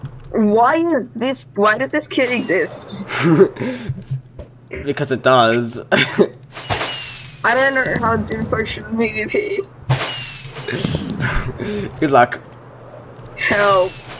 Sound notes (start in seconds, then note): 2.3 laughs; 5.9 cough/laugh